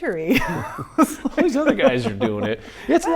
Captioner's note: laughing